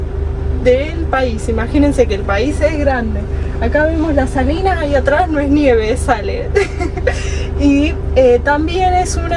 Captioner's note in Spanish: risas